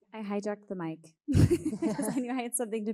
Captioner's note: all laughing